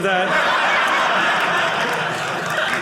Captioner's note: audience laughing